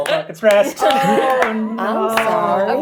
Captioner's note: laughing